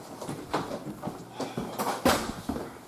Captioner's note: stoke sighs